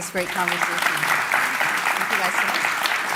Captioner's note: applause